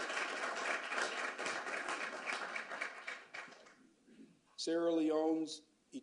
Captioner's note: applause